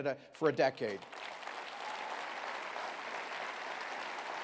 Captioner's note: applause